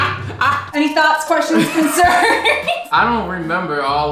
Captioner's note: laughs